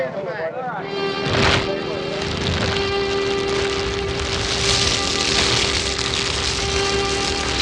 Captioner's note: fire crackling